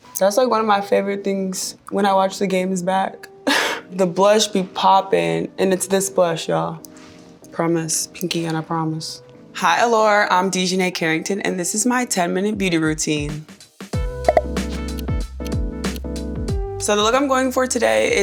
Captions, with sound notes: - That's, like, one of my favorite things when I watch the games back. [chuckling] The blush be popping. And it's this blush, y'all. Promise. Pinky and I promise. Hi, "Allure." I'm DiJonai Carrington, and this is my 10 minute beauty routine. [chill music] [graphic popping] [clock ticking] So the look I'm going for today